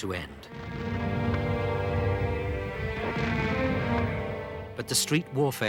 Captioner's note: stirring symphonic music; explosions booming